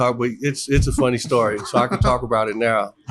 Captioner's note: laughs